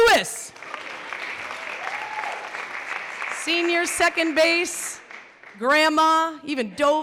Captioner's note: clapping